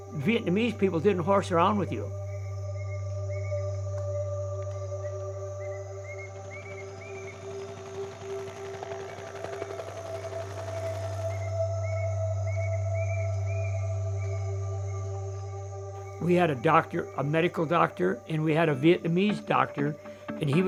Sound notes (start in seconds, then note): 4.6 birds chirping; 7.5 chopper blades humming